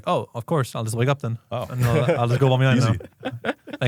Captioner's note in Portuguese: risos